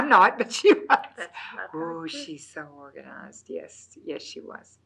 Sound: laughs

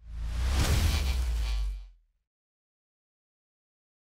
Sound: air whooshing

